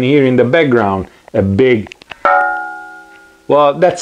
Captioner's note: dong